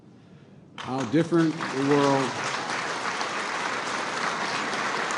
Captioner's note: applause